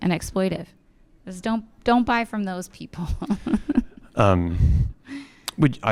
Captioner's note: laughs